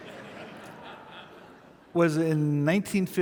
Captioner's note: audience laughing